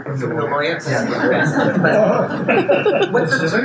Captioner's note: attendees laugh